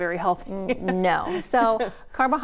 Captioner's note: laughing